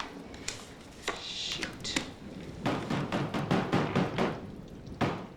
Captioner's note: pounding on door